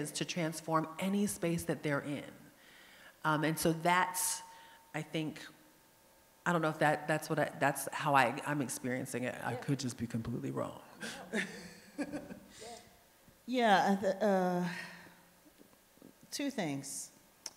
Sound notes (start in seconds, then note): 11.0 laughs